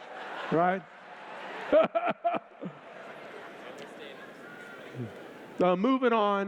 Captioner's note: laughter